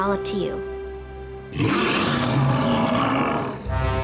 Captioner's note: roar